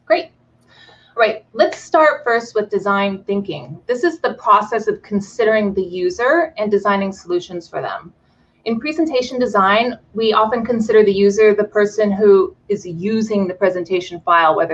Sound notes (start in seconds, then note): none